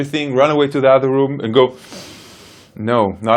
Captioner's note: inhales